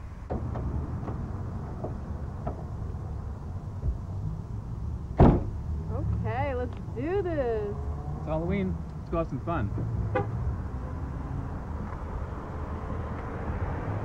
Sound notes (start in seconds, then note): 10.0 car beeps